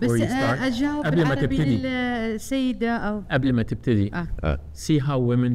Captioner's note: speaking foreign language